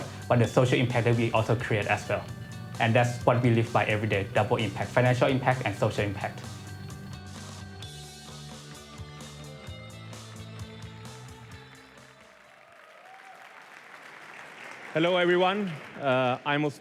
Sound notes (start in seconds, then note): 11.4 applause